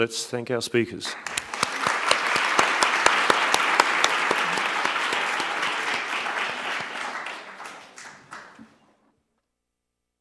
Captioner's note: applause